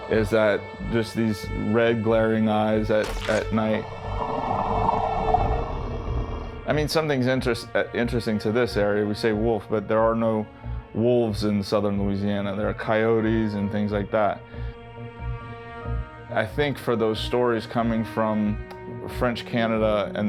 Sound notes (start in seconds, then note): 3.0 Rougarou growling; 4.2 ominous music